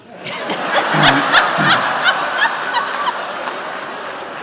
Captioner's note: audience laughs